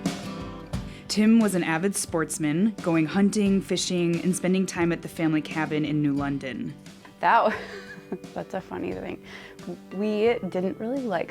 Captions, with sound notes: - Tim was an avid sportsman going hunting, fishing, and spending time at the family cabin in new London. (chuckles) - That's a funny thing. We didn't really like hunting with him.